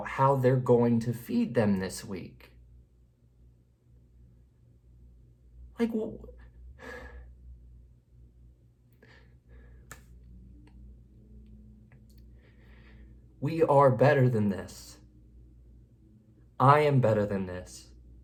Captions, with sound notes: how they're going to feed them this week. (sighs) We are better than this. I am better than this.